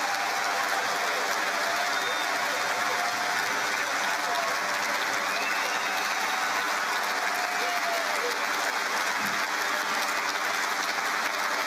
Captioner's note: cheering and Applause